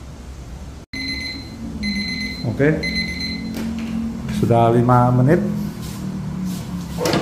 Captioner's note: beeping sound; opening oven door